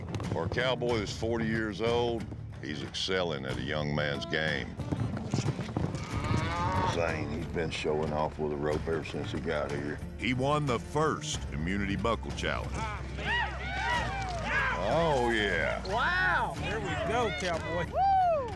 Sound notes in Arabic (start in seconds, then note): 4.6 ضربات حوافر، خوار; 12.6 ضربات الحوافر، هتاف